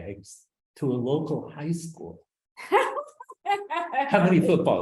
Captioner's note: laughs